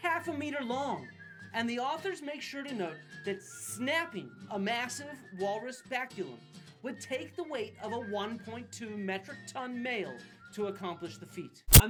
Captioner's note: snapping sound